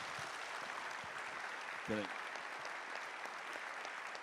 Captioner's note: applause